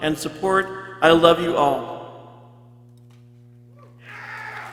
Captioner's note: people cheering